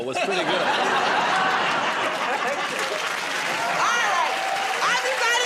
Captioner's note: laughter